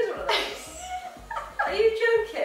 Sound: laughing

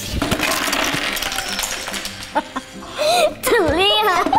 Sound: plastic clatters; both laugh

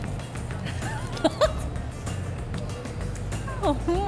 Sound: laughing

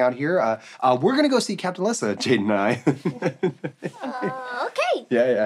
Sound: chuckles

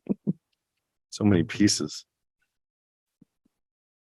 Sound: laughs

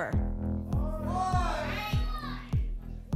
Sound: audience shouting numbers

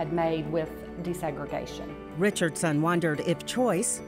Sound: voiceover

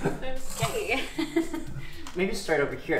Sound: laughing

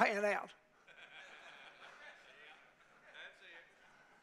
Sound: men laughing

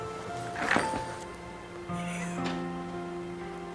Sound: whispering

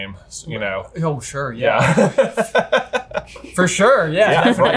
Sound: laughs

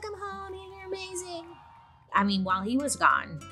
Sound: crowd cheering

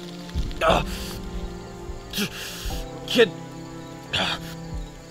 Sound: groans; panting

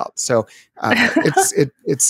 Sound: laughs

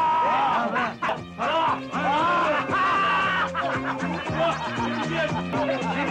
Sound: shouts

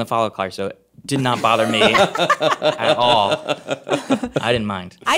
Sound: laughing

